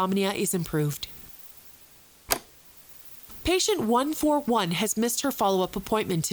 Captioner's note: tape clicks off and then back on